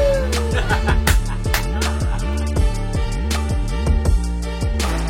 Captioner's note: all laughing; gentle electronic music